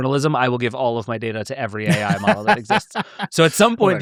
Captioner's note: laughing